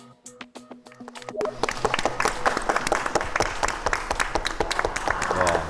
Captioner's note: the trainees applaud for the performance